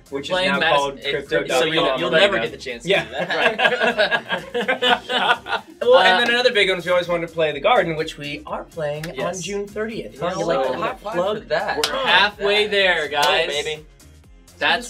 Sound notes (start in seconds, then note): 2.9 all laugh